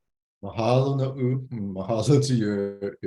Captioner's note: speaks in Hawaiian